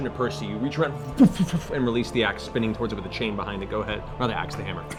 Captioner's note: throwing noise